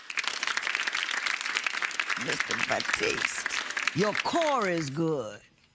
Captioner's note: applause